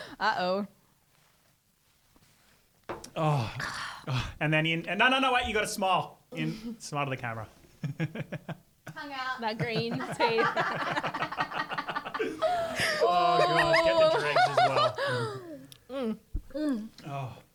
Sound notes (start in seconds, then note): 7.3 laughs; 11.8 laughing together